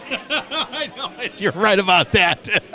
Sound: laughter

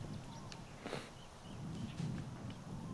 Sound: sniffles

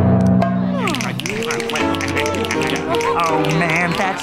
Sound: snapping

